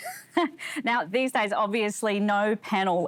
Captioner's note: laughs